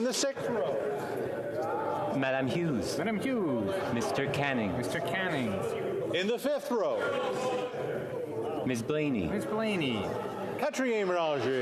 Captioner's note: calling of recorded vote